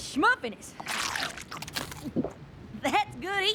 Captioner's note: slurp! gulp!